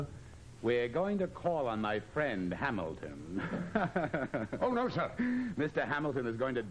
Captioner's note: laughs